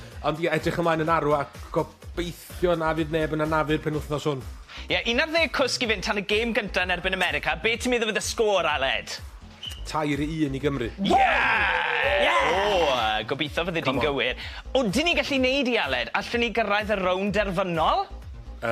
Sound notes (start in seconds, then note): 11.1 cheering